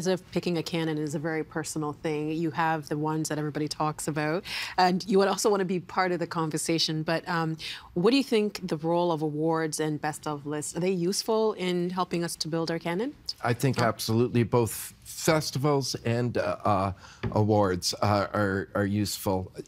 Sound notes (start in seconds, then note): none